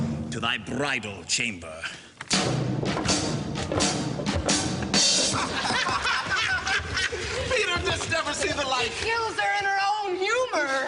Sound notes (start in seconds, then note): 5.1 the servants laugh